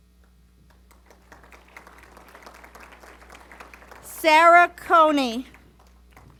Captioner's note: applause